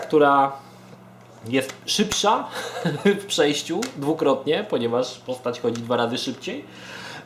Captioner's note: chuckles